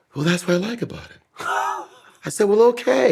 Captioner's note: laughing